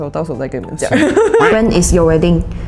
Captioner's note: laughter